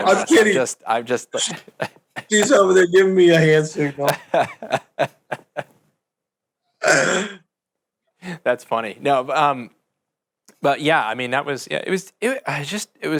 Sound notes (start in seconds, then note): 0.0 laughs; 3.9 laugh